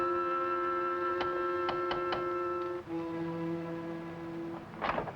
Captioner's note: knocking on door